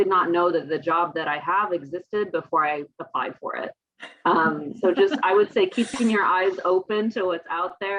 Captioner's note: laughter